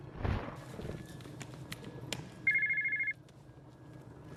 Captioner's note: cell phone ringing